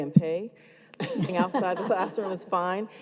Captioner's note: panel laughing